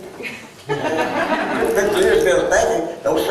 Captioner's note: laughter